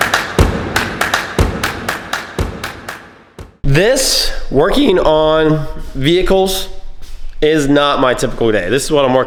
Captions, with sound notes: (Clapping) This working on vehicles is not my typical day. This is what I'm